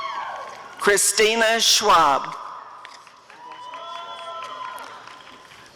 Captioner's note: applause and cheering